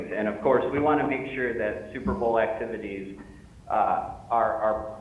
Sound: audio fading in and out

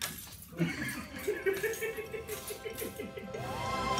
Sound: laughter

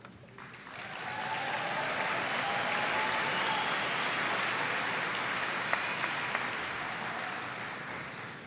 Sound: audience applauding

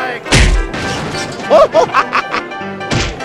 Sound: laughs

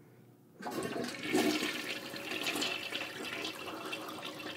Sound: toilet flushing

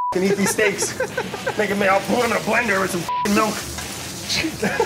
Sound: beeps; laughter

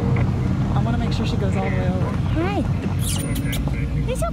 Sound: kissing sound; kissing sounds

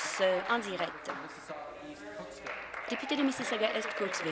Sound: applause

